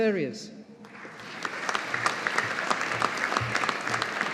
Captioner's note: audience applauding